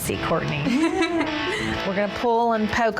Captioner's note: laughing